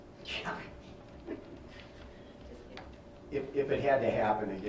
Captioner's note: laughing